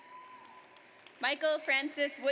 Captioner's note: audience applauds